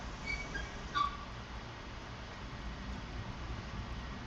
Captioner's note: metal creaking